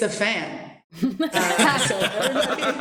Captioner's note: laughter